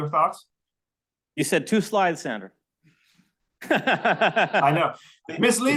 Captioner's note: laughs